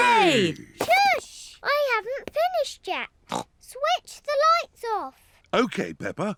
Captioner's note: snorts